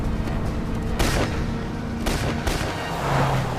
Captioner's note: gun firing